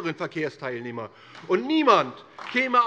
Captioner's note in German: Beifall DIE LINKE